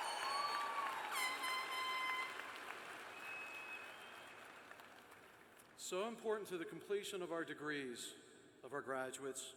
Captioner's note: cheers and applause